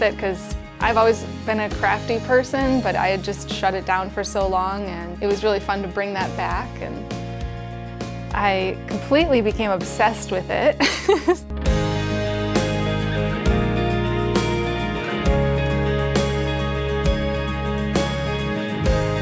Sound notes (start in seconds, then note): 10.8 chuckles; 11.9 upbeat music continues